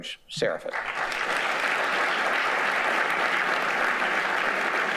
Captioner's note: audience applauding